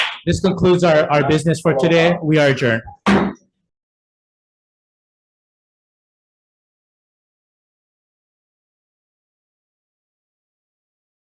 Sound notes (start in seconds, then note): 3.0 gavel bangs